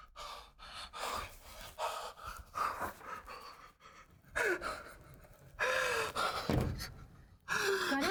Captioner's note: Karan Hyperventilates and cries